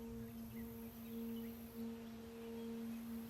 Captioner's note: birds chirping